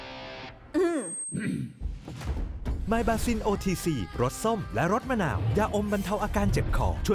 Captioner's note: clears throat